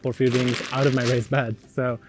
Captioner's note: bag crinkling